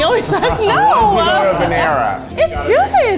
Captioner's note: laughing